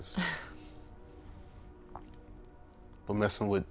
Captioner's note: Dakota laughing